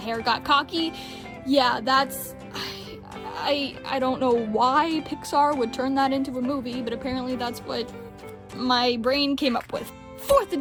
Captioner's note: sigh